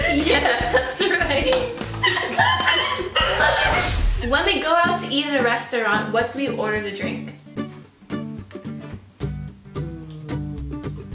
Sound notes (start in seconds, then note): 2.2 laughing; 8.0 soft upbeat music